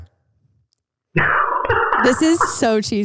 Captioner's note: laughing